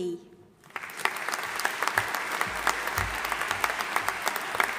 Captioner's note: audience applauding